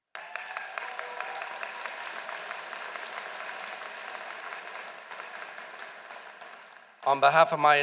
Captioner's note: applause